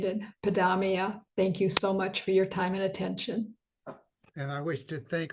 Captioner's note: foreign language 01:00:39